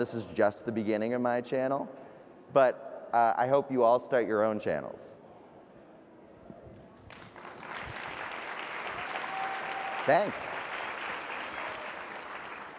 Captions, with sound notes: and this is just the beginning of my channel. But, I hope you all start your own channels. (applause) Thanks!